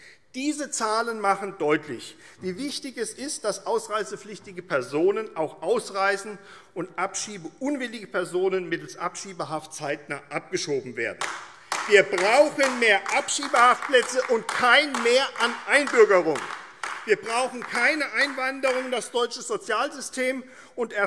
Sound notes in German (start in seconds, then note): 11.5 Beifall AfD